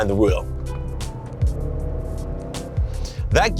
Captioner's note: engine revving